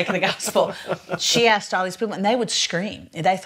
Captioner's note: laughs